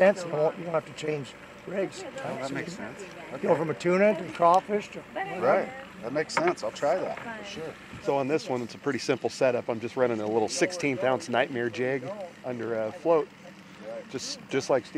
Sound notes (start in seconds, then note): 7.7 boat engine idling